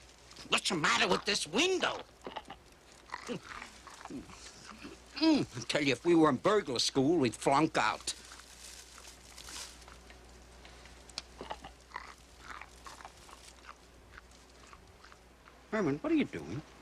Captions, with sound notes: What's the matter with this window? lf we were in burglar school, we'd flunk out. [Crunching] What are you doing?